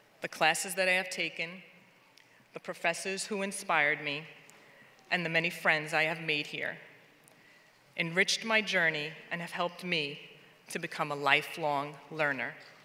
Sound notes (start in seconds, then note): none